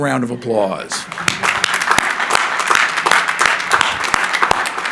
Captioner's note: crowd applauding